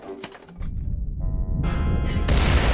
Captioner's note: deep rumble and explosion